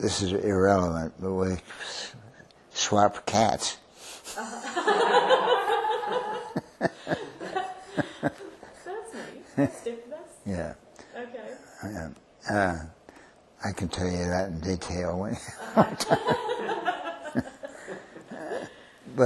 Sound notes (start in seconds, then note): 4.3 laughter